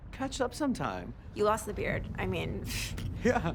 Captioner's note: chuckles